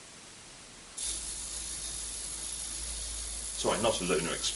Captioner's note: clockwork motor whirring